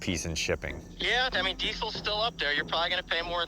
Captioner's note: on phone